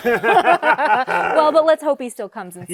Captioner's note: laughter